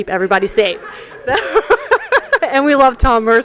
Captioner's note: laughter